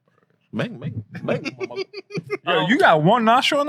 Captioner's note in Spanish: Hablando en idioma extranjero